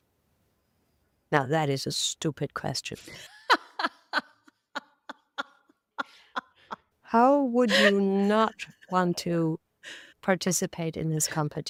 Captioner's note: laughing